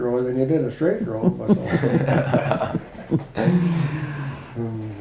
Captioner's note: laugh